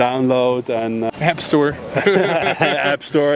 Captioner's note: both laugh